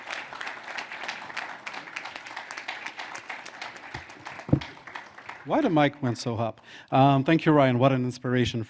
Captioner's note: applause